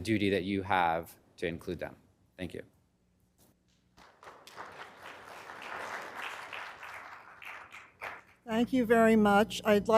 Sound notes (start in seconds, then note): 3.9 applause